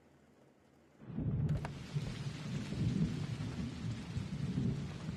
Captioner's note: thunder rumbling